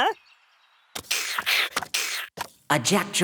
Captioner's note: imitates fight